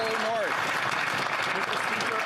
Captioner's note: applause